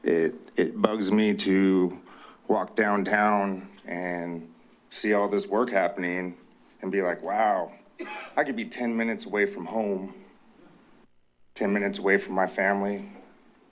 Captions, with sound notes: It bugs me to walk downtown and see all this work happening and be like, "Wow, [coughs] I could be 10 minutes away from home, 10 minutes away from my family,"